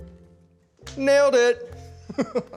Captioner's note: laughs